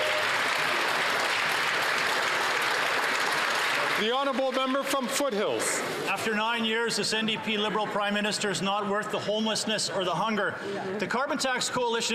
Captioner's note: some Applause